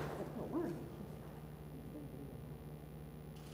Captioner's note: speaks faintly